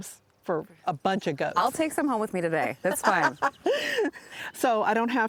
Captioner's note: both laughing